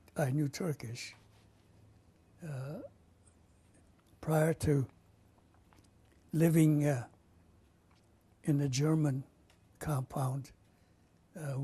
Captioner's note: pauses for 3 seconds